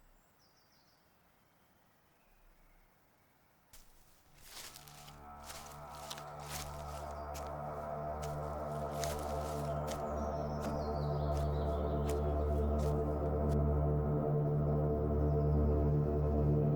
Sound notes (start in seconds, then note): 3.8 footsteps thumping; 6.2 suspenseful music